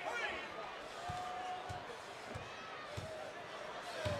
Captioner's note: applause